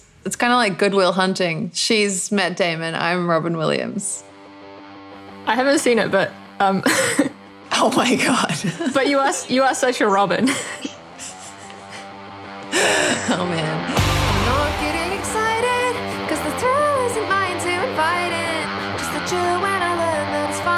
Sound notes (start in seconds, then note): 6.8 laughter; 10.3 giggling